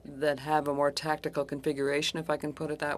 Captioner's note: speaking French